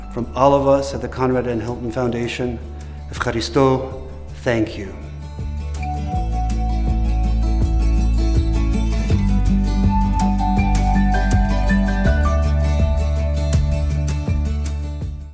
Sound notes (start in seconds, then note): 2.9 speaking greek